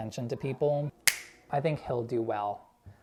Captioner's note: snaps fingers